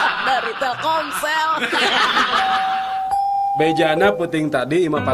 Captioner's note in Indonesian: tertawa